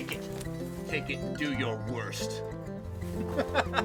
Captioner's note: laughs